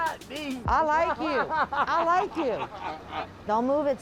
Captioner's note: man laughs